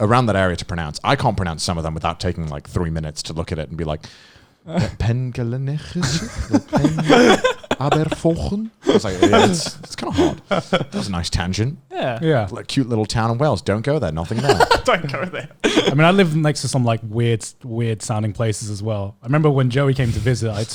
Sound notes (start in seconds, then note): 4.8 speaking foreign language; 5.9 laughing; 7.7 speaking foreign language